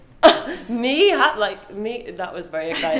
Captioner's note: laughs; gasps; both laugh